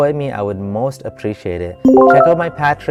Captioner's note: loud ding